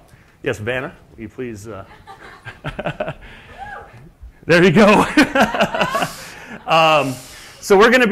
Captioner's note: laugh